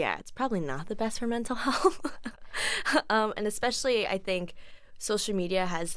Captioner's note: laughs